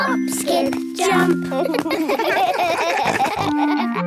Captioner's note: laughing